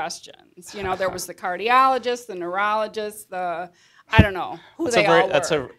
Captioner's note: laughs